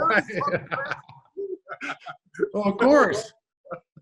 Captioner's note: Sean and David laughing